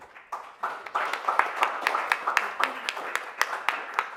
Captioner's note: audience applauds